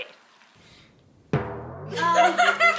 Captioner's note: bell bongs; girls laugh